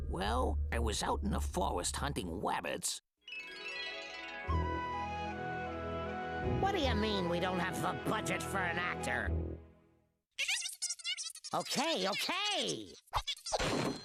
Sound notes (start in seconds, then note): 10.4 chattering angrily